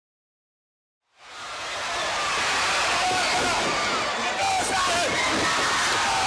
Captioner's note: crowd cheering; crowd chatter